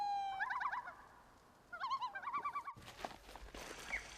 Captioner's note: ducks chirping